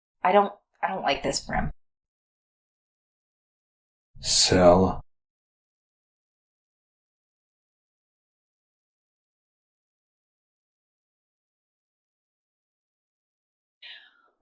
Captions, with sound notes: I don't, I don't like this, Brim. Sell? [long intentional silence] [silence]